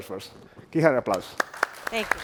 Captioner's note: applause